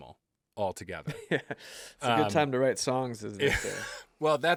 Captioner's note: laughs